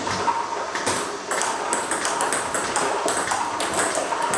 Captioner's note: ball ping pong hitting